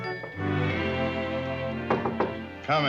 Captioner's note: knocking